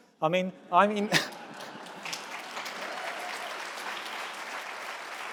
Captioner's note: audience applauds